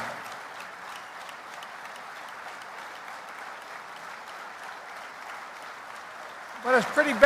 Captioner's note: applause